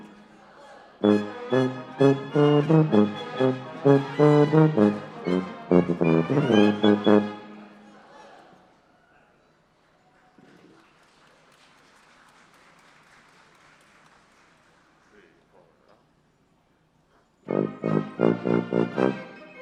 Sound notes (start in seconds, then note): 6.8 background Talking; 11.5 applause